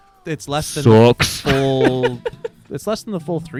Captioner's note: laughs